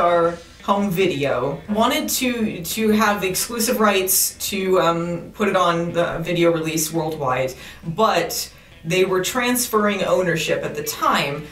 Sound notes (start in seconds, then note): none